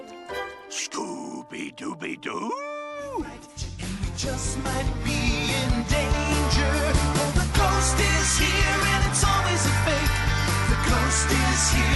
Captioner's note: cough